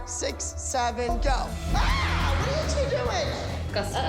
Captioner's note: screams